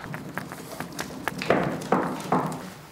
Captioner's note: wooden rattling